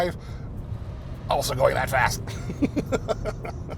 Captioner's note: laughs